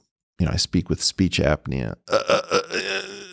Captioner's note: stutters